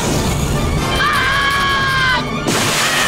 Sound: screaming

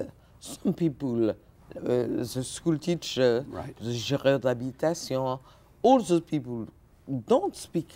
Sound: speaking French

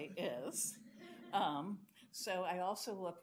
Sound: audience laughs

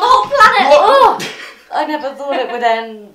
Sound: laughs

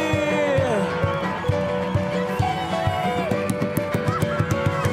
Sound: audience applauds

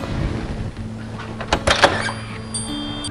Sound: door unlatching

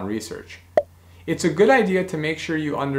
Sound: bubble popping

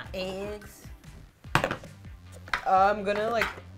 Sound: container thumps

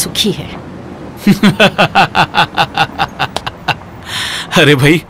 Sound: laughs

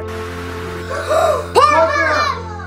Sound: TV static; simultaneous gasps

